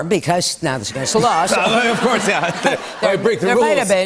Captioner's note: laughter